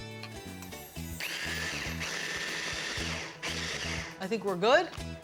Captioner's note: pulsing